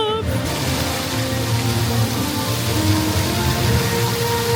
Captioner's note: water spraying